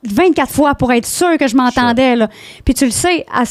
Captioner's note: in french